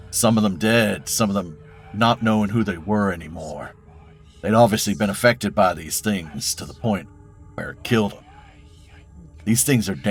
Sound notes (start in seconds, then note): none